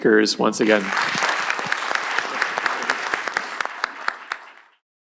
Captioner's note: applause